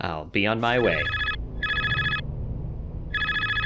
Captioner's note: phone Rings